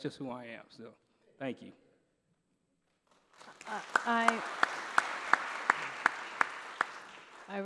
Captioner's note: applause